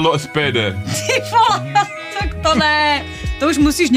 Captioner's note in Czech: vyprskne smíchy